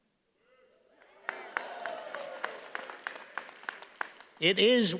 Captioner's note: audience cheers and applauds